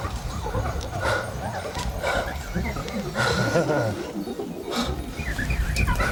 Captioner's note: Hendricks laughs; electronic beeping and zinging